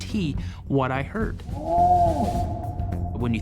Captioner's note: creature howling